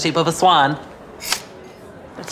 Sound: snips

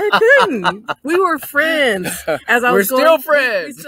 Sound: laughs

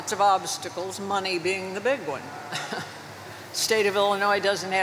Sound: chuckles

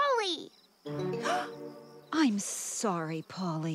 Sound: gasp

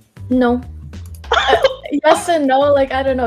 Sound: laughing

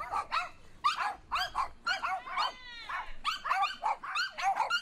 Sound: dogs continue barking

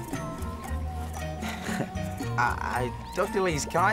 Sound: chuckling

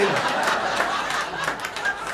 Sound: laughter

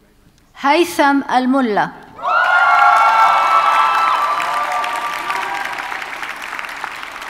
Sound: audience cheers and applauds

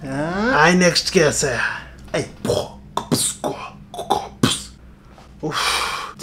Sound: fake beatboxing

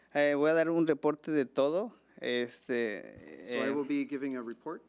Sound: man speaking foreign language

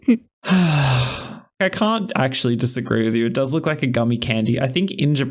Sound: laughter; sigh

